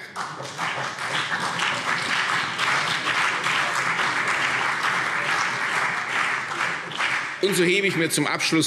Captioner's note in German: Beifall CDU und BÜNDNIS 90/DIE GRÜNEN